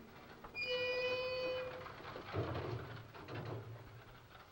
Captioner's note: gates screeching